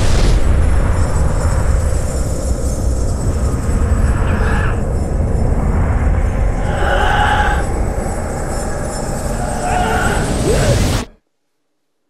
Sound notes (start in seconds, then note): 6.2 alex screams distortedly